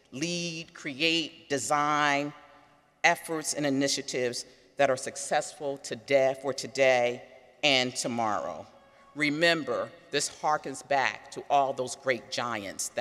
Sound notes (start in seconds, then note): none